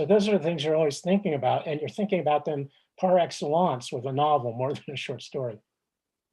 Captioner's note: chuckles